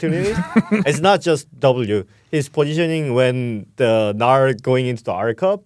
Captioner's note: laughs